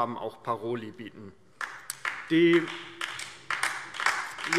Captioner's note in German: Beifall DIE LINKE